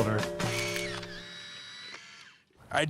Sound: camera lens snaps

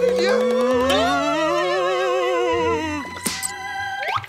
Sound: moaning

